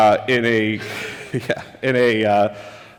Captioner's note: laughs